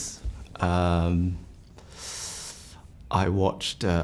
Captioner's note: inhales